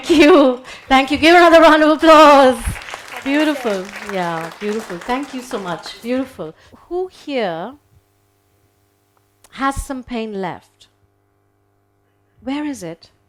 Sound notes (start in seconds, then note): 2.4 audience applauding